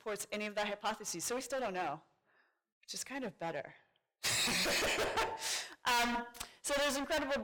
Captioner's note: laughs